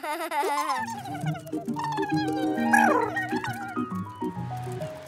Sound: laughter; murmuring

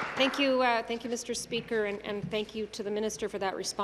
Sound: applause

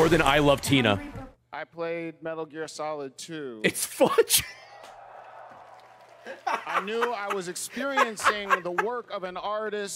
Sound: laughs

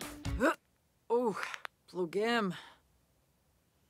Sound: sim groaning

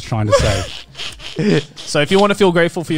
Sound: laughing

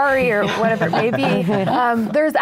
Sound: everyone laughs

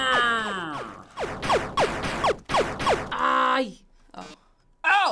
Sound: firing

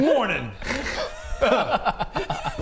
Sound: laughs

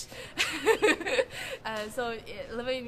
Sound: laughing

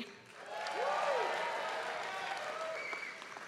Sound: applause

